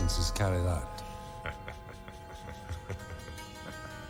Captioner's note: Harry laughing